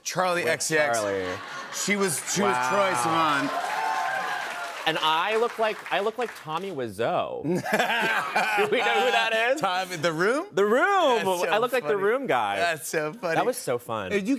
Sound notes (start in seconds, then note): 3.5 cheers and applause; 7.4 laughter